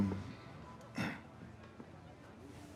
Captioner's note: clears throat